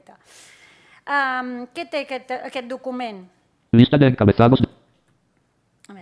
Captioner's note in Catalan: veu del lector de pantalla